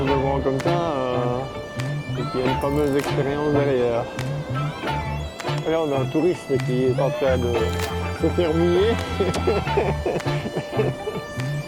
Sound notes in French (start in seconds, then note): 9.0 rire